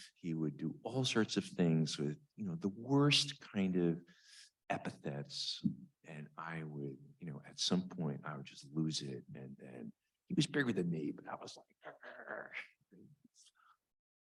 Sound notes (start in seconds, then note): 13.1 grunts